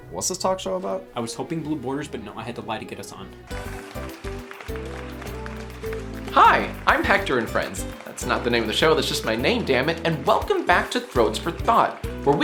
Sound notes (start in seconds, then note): 3.5 audience applauding; 3.5 uplifting music